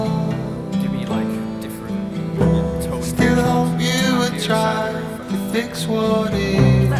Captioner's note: people chattering